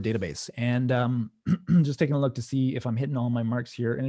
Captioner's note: clearing throat